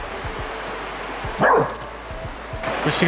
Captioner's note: River barking